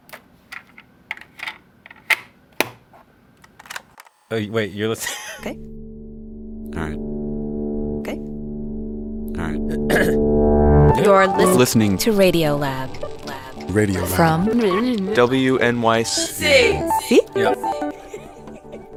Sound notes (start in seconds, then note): 3.5 click; 5.0 laugh